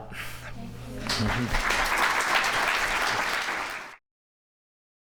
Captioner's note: applause